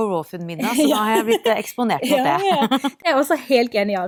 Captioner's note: laughter